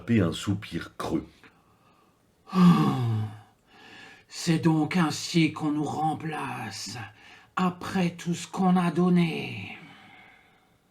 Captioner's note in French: soupir